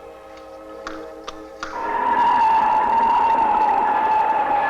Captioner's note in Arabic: عواء الريح